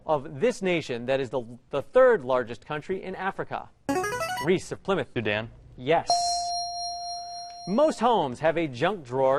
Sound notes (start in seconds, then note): 3.9 ringer; 6.1 ding